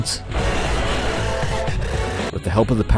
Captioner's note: brrrrrrrrrrrrrrrrrrrrrrrrrrrrrrrrrrrrrrrrrrrrrrrrr